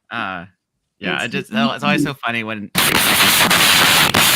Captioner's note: static